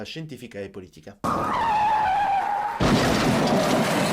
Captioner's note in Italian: Suoni di frenata